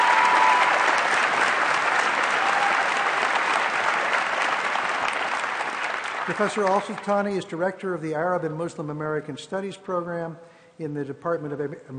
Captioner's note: applause